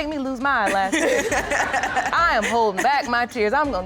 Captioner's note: all laughing